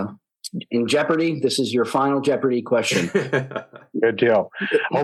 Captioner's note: laughter